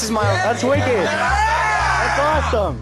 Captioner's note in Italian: esaltazione e urla